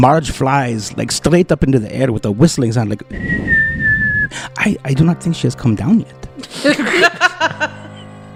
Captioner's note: whistles